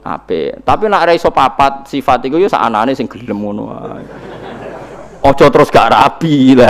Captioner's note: laughs